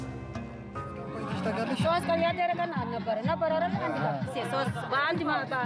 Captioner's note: speaking in foreign